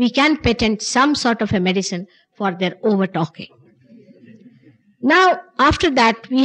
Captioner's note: laughter